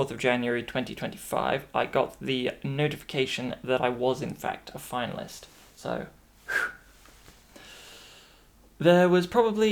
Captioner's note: phew